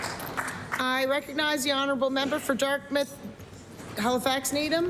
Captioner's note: applause